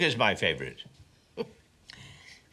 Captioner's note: chuckles